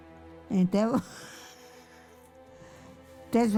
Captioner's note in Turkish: gülüyor